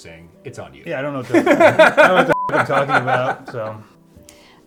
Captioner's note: beep